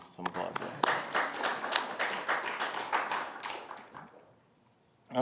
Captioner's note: audience applauding